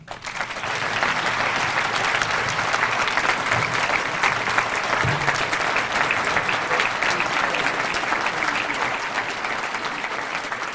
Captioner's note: applause